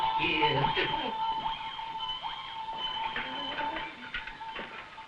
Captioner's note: Burgomil chuckling